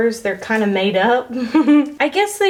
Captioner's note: chuckles